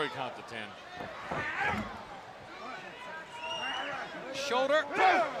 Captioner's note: crowd chatter